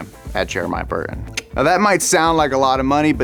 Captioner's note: clicks his tongue